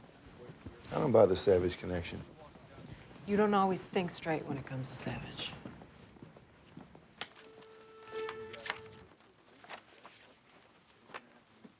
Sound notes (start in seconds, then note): 7.6 thunder rumbles